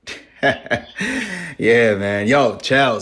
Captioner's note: laughs